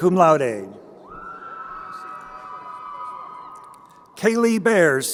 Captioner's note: crowd cheering